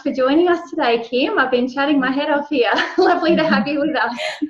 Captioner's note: laughs